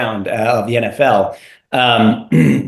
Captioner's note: cough